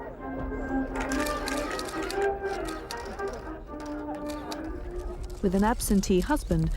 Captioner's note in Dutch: sluiters van de camera klikken